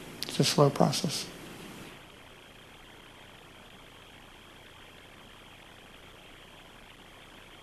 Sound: no speaking

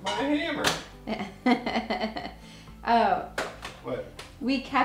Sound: chuckles

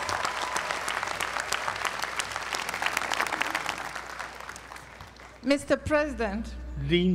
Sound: applause

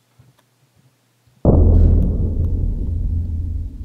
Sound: artillery Boom

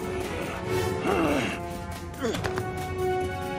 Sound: grunting

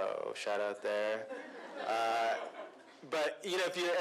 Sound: laughter

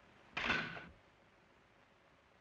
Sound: launcher snapping

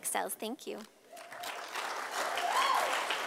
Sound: sound of applause from audience

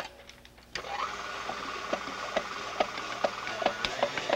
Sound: whirring

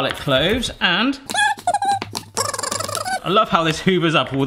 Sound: high-pitched speech

